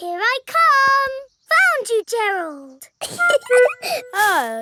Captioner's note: giggling